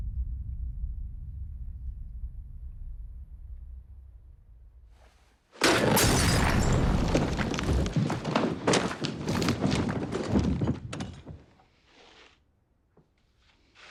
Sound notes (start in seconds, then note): 8.1 rustling, banging